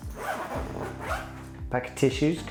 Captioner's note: zipper zipping